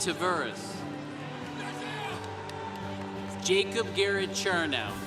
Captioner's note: congregation cheering